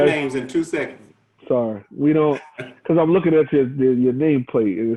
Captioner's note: chuckles